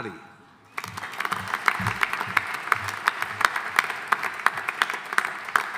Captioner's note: audience applauding